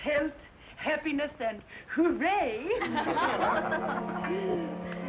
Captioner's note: laughter